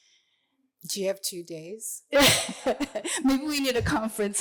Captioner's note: laughter